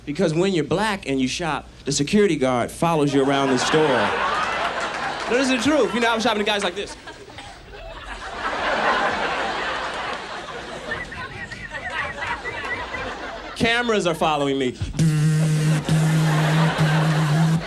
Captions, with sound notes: because when you're black and you shop the security guard follows you around the store. No, this is true, you know I'm shopping the guys' like this. (whistles) Cameras are following me. (buzzes)